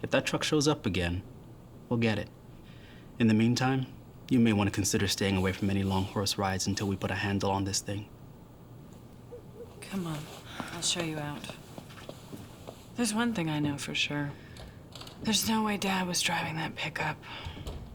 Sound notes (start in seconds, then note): none